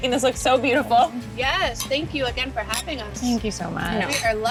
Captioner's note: glasses clinking